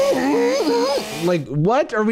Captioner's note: imitating chainsaw